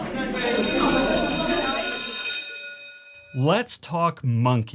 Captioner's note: students murmuring; bell ringing